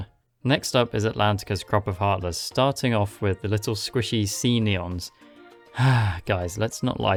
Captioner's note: sigh